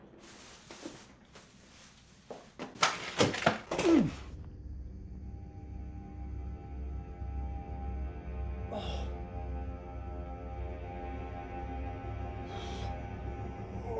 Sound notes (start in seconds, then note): 4.6 ominous music; 8.6 groans